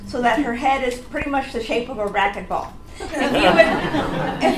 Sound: audience laughs

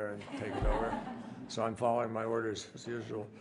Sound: laughter

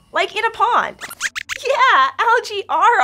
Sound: squeaks squeaks

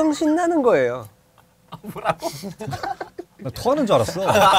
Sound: laughing

